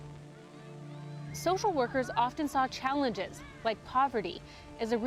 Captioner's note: children playing